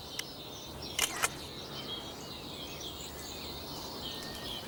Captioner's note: camera shutter clicking